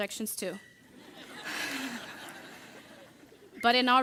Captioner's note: audience laughing